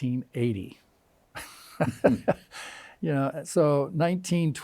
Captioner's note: chuckles